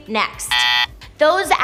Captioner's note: buzzer buzzes